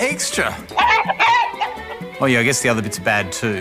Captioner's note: clucking